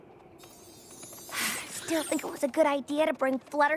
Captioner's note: twinkling